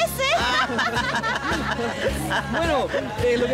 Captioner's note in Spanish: Todos ríen